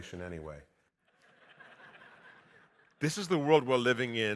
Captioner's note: audience laughing